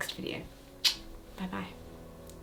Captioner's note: kiss smacks